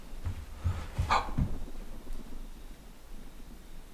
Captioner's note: foostep sounds